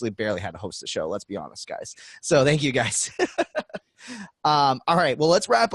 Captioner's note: laughing